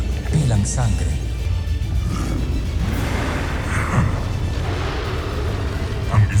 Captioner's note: screeching roar